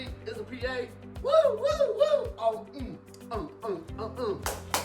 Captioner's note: whooping